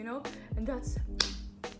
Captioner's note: clap